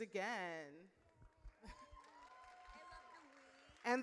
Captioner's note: audience cheers